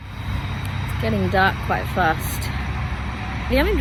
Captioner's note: gas stove hisses